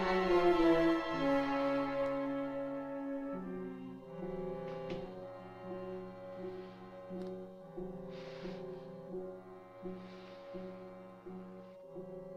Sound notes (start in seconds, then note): 4.7 door Closes